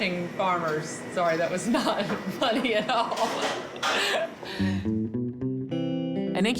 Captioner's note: chuckles